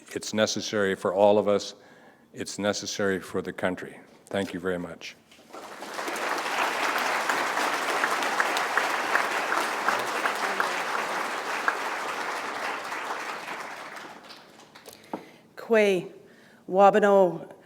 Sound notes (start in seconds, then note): 7.7 applause; 10.7 foreign language